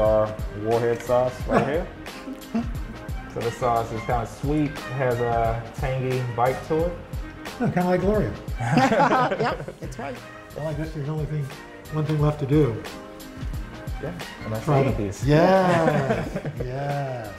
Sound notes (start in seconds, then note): 8.6 laughter